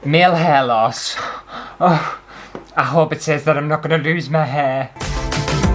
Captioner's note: gasps; intro Music